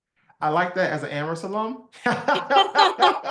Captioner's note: laugh